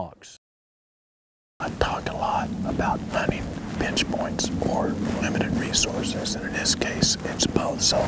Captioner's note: whispering